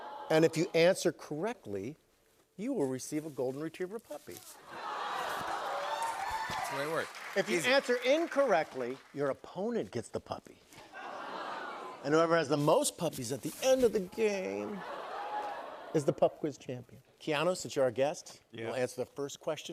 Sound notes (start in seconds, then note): 0.0 audience "Awws"; 4.7 audience "Awws"